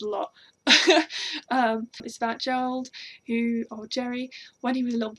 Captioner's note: laugh